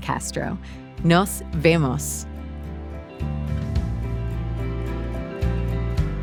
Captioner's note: speaking in a foreign language